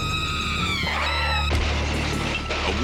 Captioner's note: crash